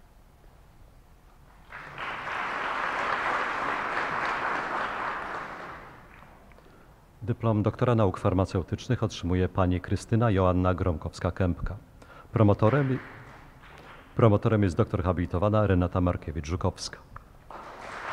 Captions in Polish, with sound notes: [oklaski] Dyplom doktora nauk farmaceutycznych otrzymuje Pani Krystyna Joanna Gromkowska-Kępka. Promotorem jest doktor habilitowana Renata Markiewicz Żukowska.